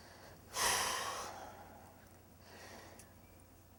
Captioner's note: sighs